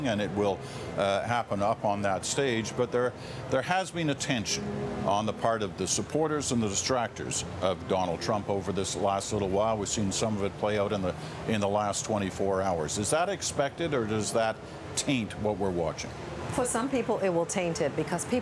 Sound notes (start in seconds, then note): none